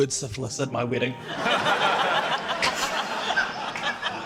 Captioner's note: laughter